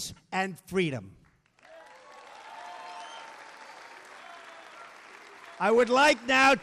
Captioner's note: applause